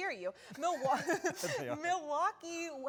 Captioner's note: laughter